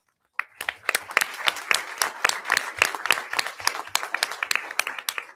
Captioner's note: audience applauding